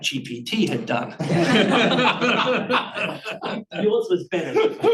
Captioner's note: audience chuckling